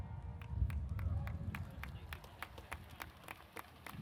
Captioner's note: audience claps